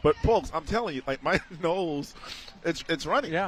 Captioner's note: laughter